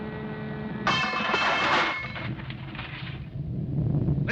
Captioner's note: metal clatters